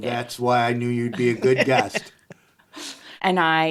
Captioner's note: laughing